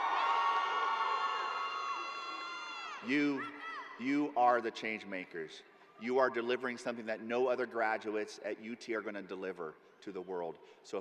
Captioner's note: cheers and applause